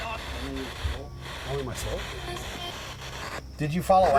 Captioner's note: spirit box voice